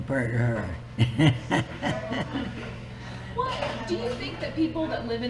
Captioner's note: laughs